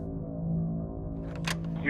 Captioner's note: clicking